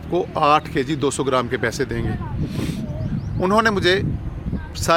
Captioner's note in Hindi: नाक से की जाने वाली आवाज़